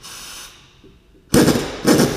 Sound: air gun

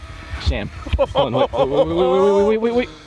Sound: laughing heartily

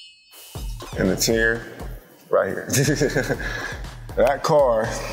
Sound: laughs

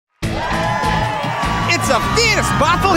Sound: crowd cheering

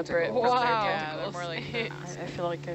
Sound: divers chattering

